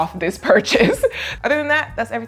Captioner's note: laughing